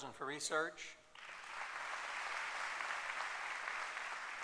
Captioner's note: applause